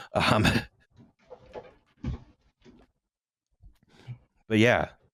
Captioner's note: sounds of movement; faint thud